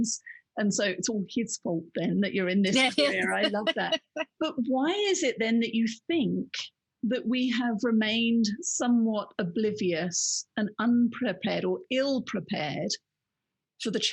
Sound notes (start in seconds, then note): 2.7 laughing